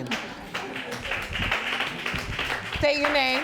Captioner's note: audience laughing and applauding